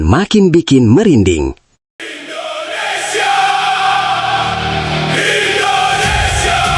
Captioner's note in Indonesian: berteriak